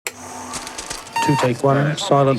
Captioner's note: film reel spinning